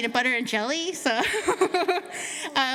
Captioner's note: laughter